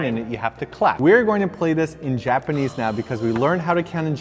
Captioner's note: sighs